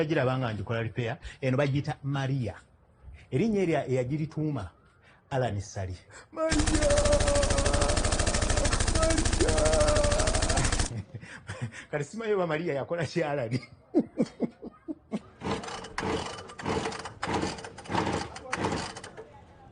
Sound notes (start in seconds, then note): 10.5 laughs; 13.4 giggling; 15.4 cranking motor